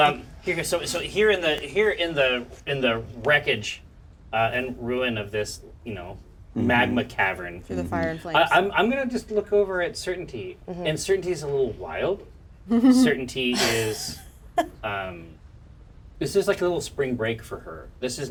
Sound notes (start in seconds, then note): 13.5 laughs